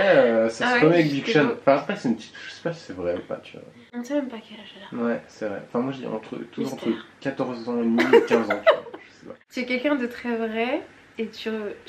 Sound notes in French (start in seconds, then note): 7.9 rires